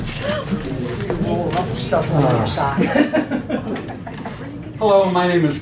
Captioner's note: laughing